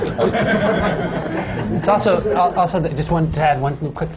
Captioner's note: laughter